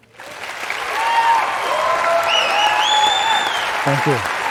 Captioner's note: cheers and applause